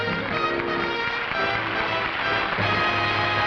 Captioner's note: applause